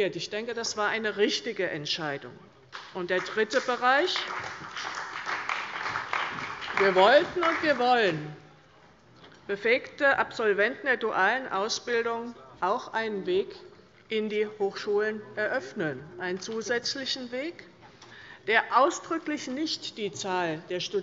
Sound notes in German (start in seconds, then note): 3.1 Beifall bei der CDU und dem BÜNDNIS 90/DIE GRÜNEN